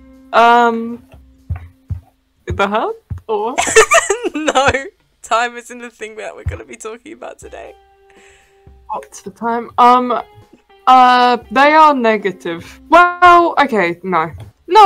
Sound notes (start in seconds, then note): 3.6 laughs